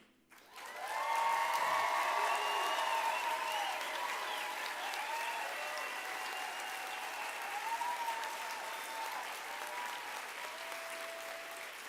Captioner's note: applause